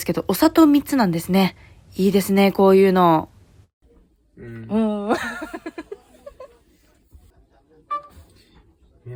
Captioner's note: laughs